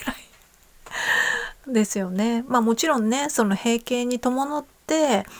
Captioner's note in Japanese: 息をのむ音